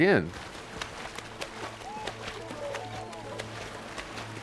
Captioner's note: water flapping